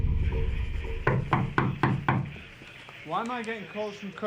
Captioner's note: knocks on door